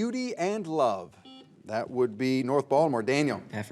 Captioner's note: buzzer beeps